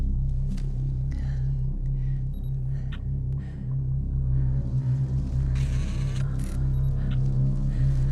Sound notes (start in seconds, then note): 2.6 camera clicking